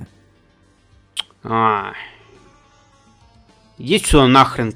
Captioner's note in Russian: цокает